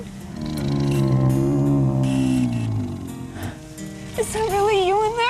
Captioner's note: dinosaur grumbles